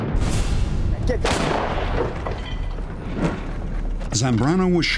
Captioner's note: gunshot